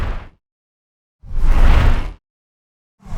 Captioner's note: whooshing